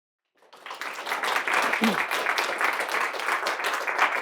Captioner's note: audience applauding